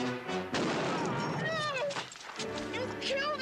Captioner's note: gun firing